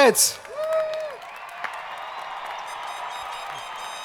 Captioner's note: crowd applauding